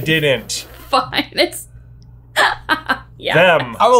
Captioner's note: laughing